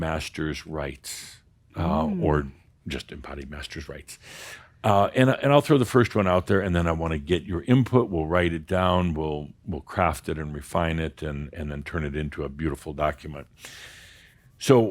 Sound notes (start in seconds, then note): none